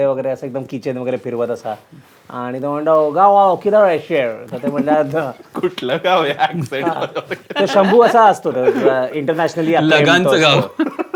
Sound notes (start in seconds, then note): 4.9 in American Accent